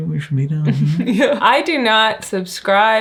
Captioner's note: chuckles